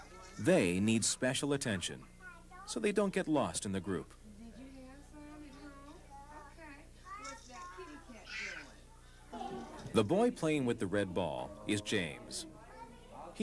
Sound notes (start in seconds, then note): 4.1 people talking